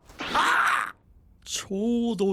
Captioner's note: bonk!